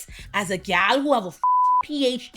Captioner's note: beep